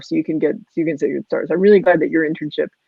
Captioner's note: voice muffled